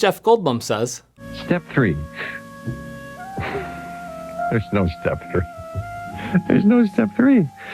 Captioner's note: sly laughter